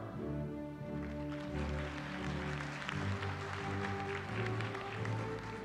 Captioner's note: applause